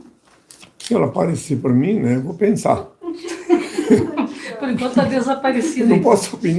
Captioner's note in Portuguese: risadas